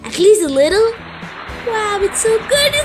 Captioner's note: cheering